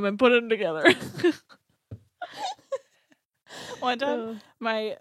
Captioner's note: laughs